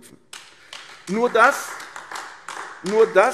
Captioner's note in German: Beifall AfD